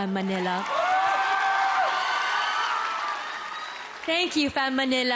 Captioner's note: audience whooping, clapping